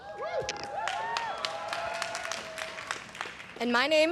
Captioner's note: everyone cheering and applauding